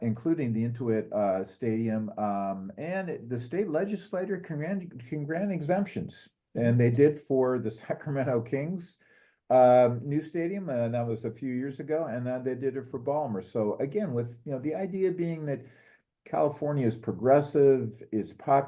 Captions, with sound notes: including the Intuit Stadium, and the state legislature can grant exemptions. And they did for the [LAUGH] Sacramento Kings new Stadium, and that was a few years ago, and then they did it for Ballmer. So, again, with the idea being that California is progressive,